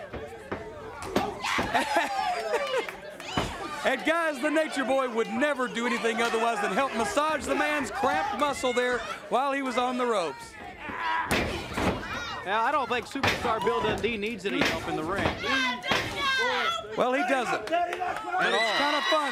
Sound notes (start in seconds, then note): 0.1 crowd cheering; 11.3 crowd cheering; 16.1 crowd cheering